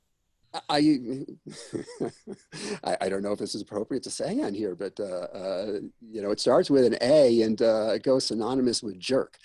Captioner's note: laughs